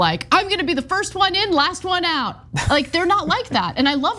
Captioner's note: laugh